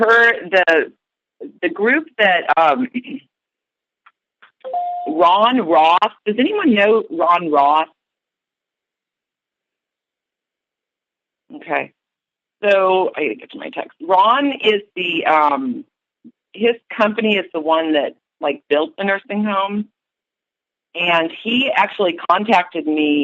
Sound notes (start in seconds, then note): 4.6 sound of a bell and silence